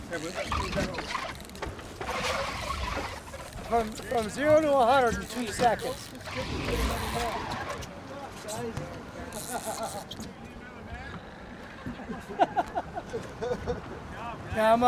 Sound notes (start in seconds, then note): 0.0 squeaking; 7.6 reel cranking; 10.1 background chatter; 11.7 chuckling